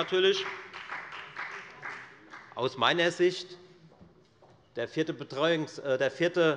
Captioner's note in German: Beifall bei der FDP